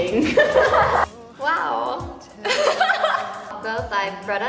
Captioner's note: laughs